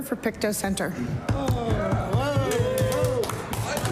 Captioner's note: applause